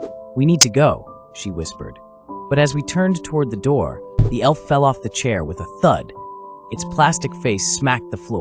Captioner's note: thud